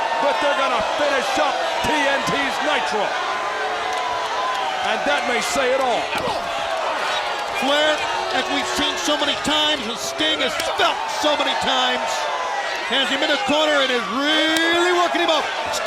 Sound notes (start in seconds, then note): 3.4 crowd cheering; 6.3 Sting exclaiming